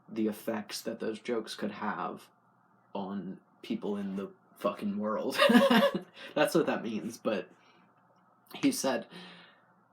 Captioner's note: laugh